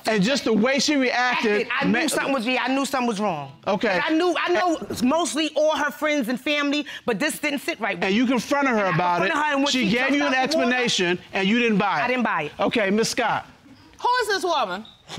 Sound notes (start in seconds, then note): none